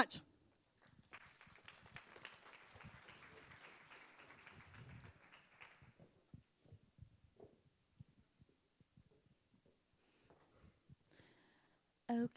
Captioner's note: applause